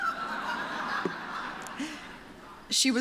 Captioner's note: laughter